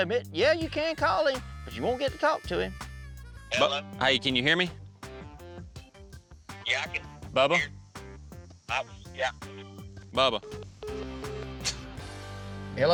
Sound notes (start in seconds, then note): 7.2 cell phone breaking up; 10.2 cell phone breaks up, beeps